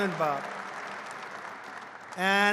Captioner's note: applause